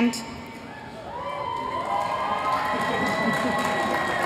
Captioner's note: cheers